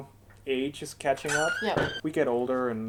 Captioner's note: Dernier bruit de porte